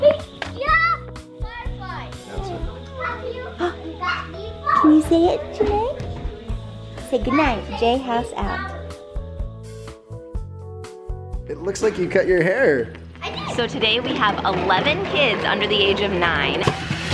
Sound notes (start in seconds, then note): 3.4 gasps